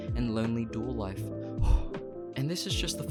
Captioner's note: tired exhale